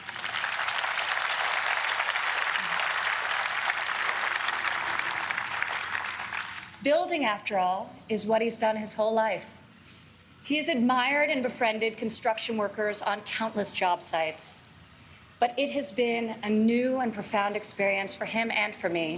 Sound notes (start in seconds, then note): 7.0 applause